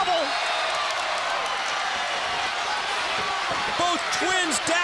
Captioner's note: crowd cheering